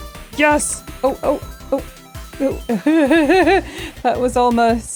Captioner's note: laughing